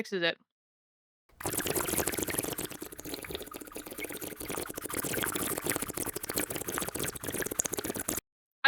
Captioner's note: slurping sound effect